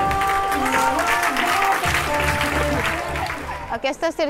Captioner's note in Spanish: El público aplaude